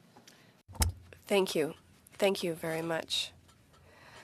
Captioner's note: speaking in French